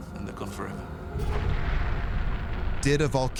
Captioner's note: ominous music; deep rumble